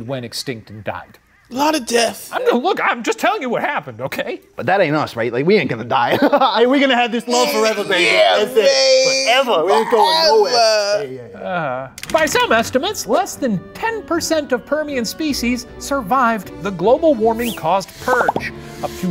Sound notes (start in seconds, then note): 6.0 laughs